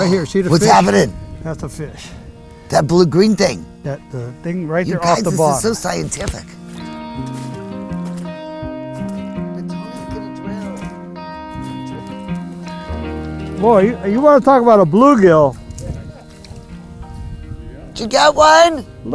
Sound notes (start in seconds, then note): 7.0 upbeat music; 11.0 upbeat music; 16.1 speaker laughs